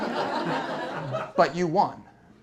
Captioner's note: laughter